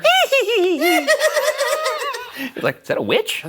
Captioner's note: imitate witch cackling; cackling